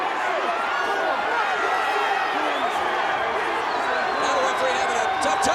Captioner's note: audience cheers